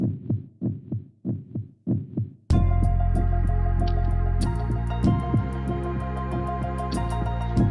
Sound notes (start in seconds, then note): 1.8 heart beating; 2.5 opening Music